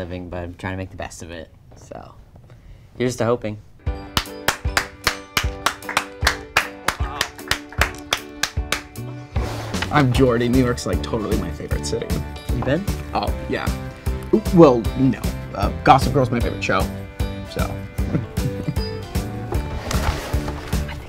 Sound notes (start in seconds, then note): 4.1 applauds; 18.0 Jordy laughs